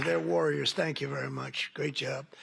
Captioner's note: applause